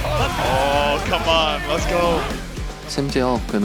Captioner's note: team members are cheering